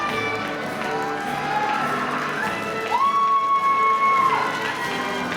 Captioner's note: audience cheering and applauding